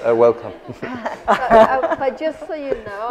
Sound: laughter

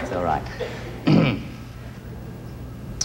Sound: clearing throat

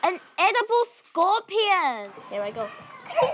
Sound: kids scream

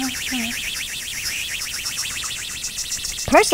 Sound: rocket engine

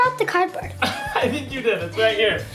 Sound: chuckling

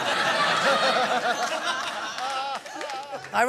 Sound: laughter

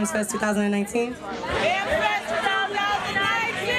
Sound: crowd

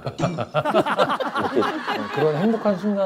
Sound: laughing

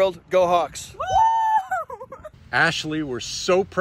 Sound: women whooping

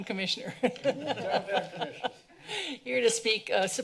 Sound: laughter

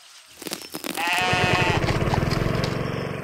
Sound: sheep baa

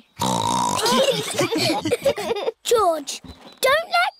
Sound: snorts; laughter

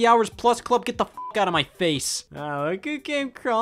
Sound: beep

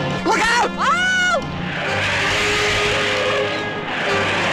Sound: yells

